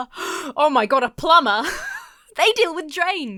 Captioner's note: gasps; wheezes